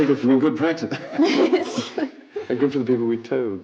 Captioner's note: laughs